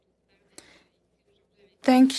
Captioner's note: speaking in French